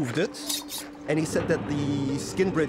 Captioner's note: knife clinking